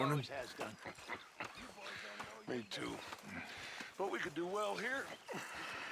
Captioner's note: laughs